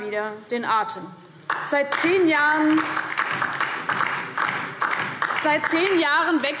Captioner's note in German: Beifall DIE LINKE